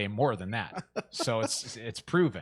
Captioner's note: man laughing